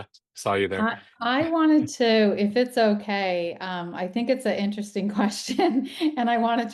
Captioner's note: chuckles